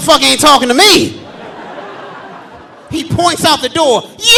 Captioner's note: audience laughing